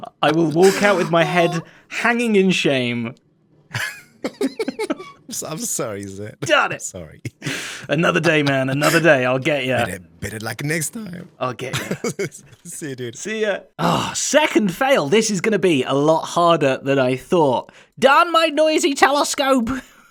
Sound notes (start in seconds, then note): 3.7 both laugh